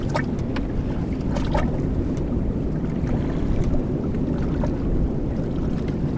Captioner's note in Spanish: Ruidos del mar